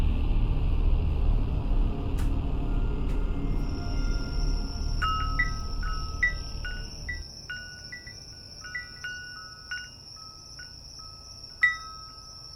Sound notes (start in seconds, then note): 0.3 eerie dramatic music continues; 5.0 bell chiming